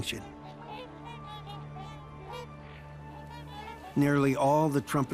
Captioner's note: swans trumpeting